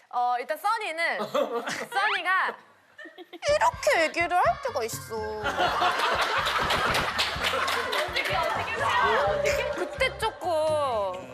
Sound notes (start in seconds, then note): 5.4 laughing out loud